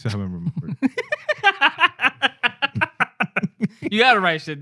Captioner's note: laughter